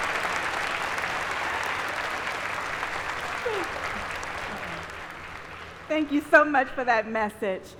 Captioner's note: applause